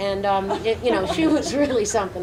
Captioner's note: laughing